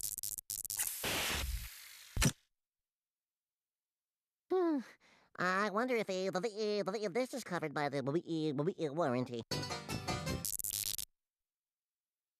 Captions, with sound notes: [sighing] I WONDER IF THIS IS COVERED BY THE WARRANTY. [electronic buzzing]